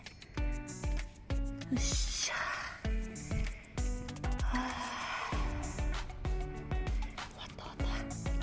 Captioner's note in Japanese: 溜息